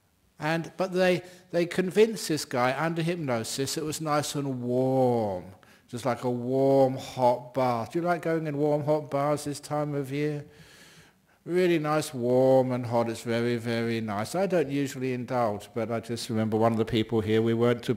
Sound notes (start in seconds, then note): none